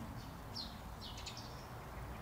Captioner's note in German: Vogelzwitschern